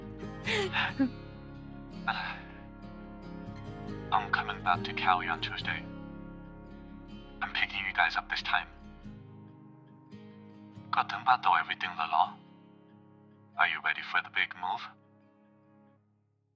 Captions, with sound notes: **SIGH** I'm coming back to Cali on Tuesday. I'm picking you guys up this time. Do you have everything prepared? Are you ready for the big move?